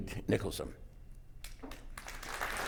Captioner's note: applause